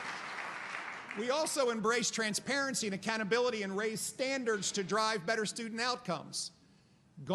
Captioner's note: applause